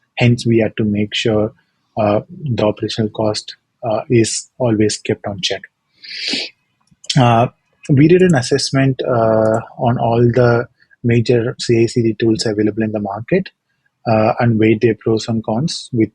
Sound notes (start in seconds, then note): 6.0 inhaling